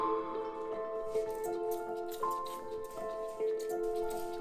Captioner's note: spray hissing